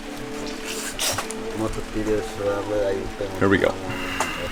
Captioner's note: speaking in foreign language